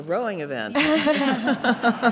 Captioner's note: chuckles